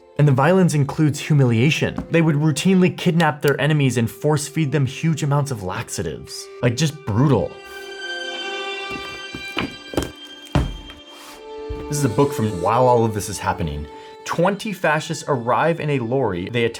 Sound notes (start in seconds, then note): 8.9 books thudding